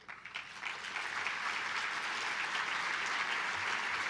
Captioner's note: applause